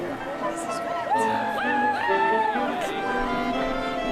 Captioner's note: whooping